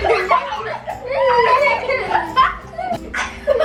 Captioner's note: laughter